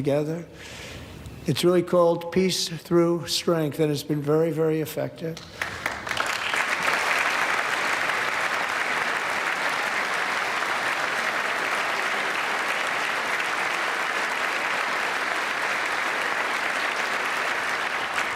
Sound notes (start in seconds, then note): 14.3 applause